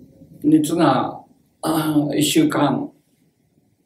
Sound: speaks Japanese

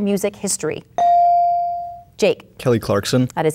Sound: bell dinging

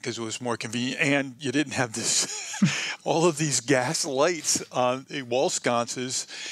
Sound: laughs

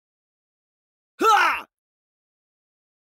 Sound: man's voice

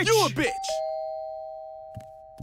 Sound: doorbell

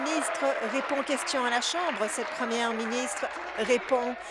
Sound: applause

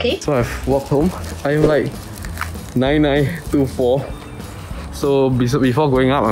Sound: steps

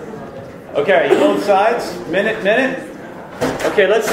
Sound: voiceover

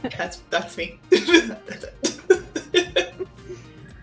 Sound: laughter

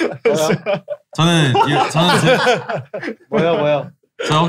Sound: laughter

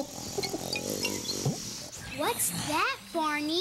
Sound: snore snore

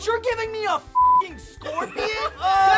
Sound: laughs

